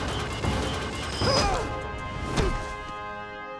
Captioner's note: screaming